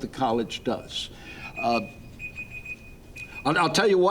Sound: timer beeping

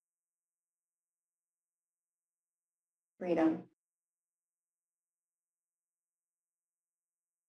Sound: pause

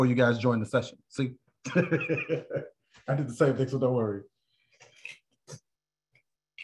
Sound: laughter

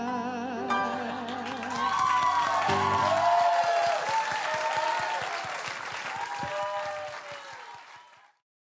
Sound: applause

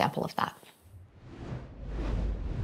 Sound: logo whooshes

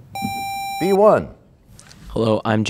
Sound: sound of a buzzer

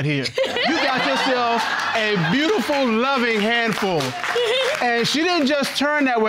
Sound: laughs

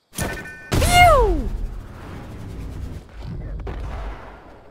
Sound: yelling; gun shooting

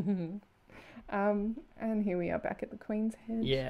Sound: giggles

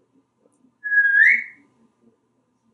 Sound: whistling

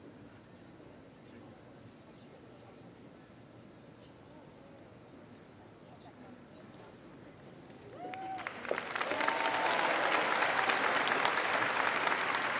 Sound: cheers and applause

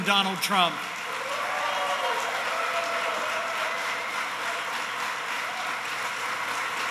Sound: applause

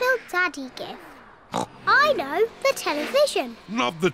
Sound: oinks

